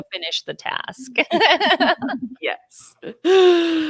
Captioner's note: laughing